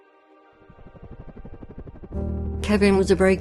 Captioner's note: sound effect - helicopter rotor blades